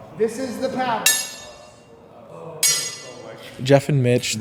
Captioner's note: swords clanking